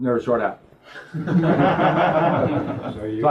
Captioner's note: laugh